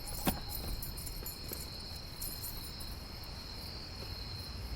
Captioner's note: insects chirping